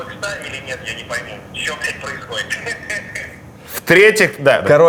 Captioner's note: laughs